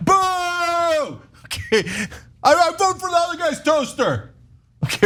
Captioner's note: laugh; laugh